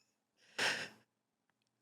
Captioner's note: tiny emotional inhale